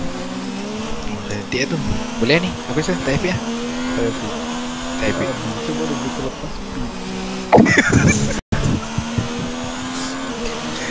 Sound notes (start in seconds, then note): 7.5 laughing